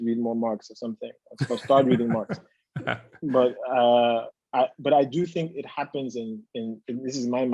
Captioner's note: laugh